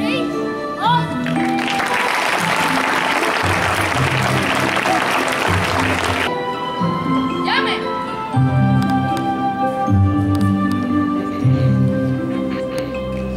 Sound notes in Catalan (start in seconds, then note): 1.2 Aplaudiments